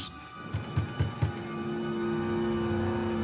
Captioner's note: knocking at door